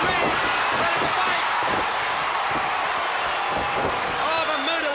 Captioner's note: applause